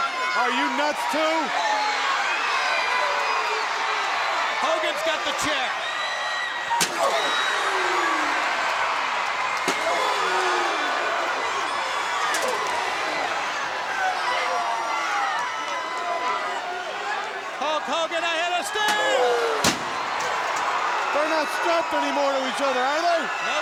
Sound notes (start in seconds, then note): 2.6 crowd cheering; 6.7 chair thudding; 6.7 crowd cheering; 9.7 chair thudding; 9.7 wrestlers grunting; 14.8 crowd cheering; 19.6 chair thudding